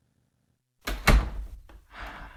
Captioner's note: door closes; sighing